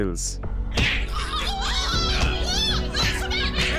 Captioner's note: People shouting